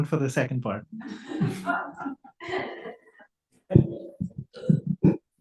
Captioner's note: audience laughs